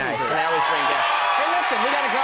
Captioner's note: audience cheers loudly